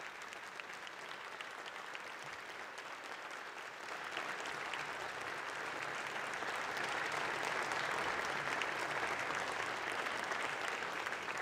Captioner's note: applause